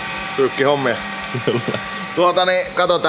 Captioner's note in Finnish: naurahtaa